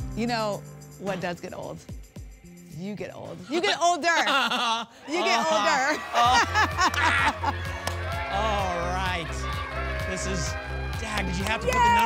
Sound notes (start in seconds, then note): 4.0 laughs; 6.0 laugh; 7.3 party horn sounds